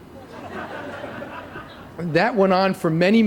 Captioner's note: laughter